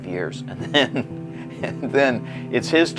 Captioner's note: laughs